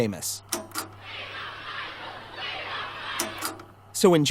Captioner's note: crowd